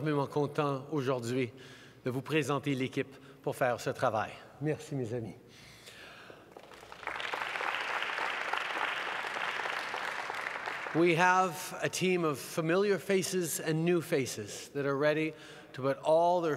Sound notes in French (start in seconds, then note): 6.4 Applaudissements